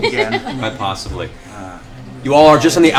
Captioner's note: laughter